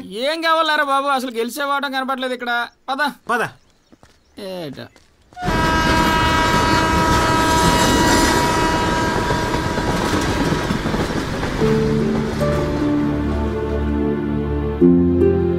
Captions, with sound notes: I don't see any signs of victory. -Let's go. -Come on. [Train horn blares]